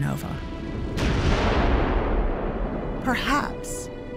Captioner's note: explosion roars